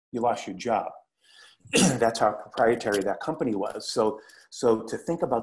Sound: cough

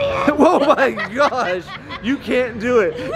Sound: both laughing

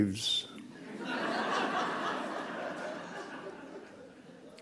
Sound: laughs

